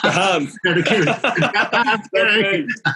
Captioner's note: both laughing